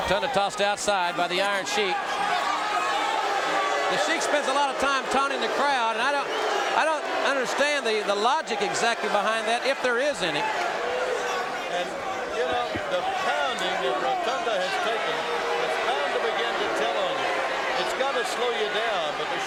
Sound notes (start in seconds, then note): 2.6 audience cheering